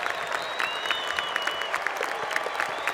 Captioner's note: cheers and Applause